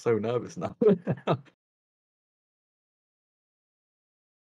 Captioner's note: laughs